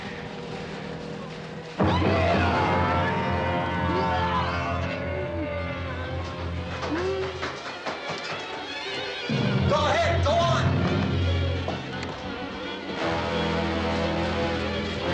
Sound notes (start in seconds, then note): 1.8 screaming